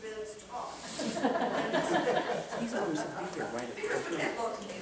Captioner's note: laughter